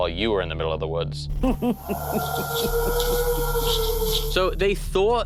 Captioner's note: inhuman howling